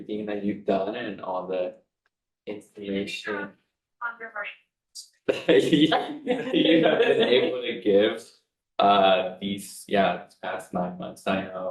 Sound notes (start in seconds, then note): 5.3 board members chattering and laughing